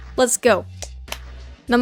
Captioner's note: clap clap